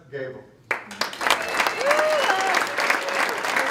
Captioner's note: applause